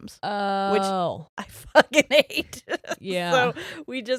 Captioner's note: giggles